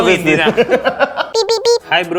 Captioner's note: laughs